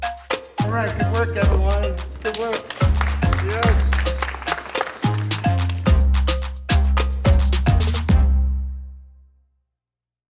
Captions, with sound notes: >> Alright, good work everyone. Good work! [clapping and applause]